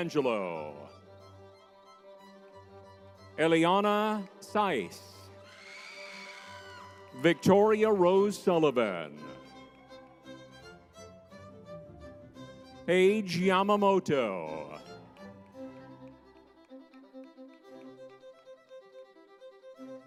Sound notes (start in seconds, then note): 5.4 crowd member screaming; 10.6 lively music; 17.2 lively music